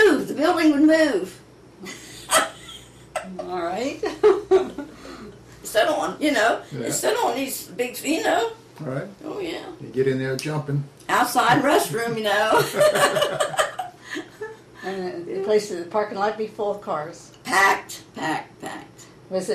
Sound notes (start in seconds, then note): 1.9 laughs; 5.0 laughs; 12.5 laughter